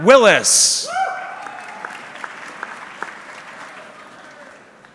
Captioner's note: audience clapping